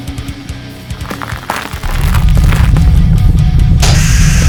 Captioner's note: ground rumbling; rocks clattering; scorpion beast hisses